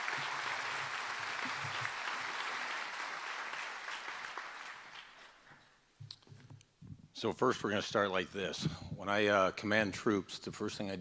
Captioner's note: applause